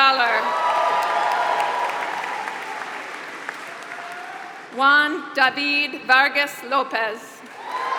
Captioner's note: applause; applause